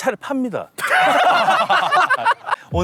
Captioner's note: laughing